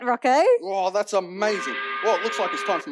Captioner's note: bell rings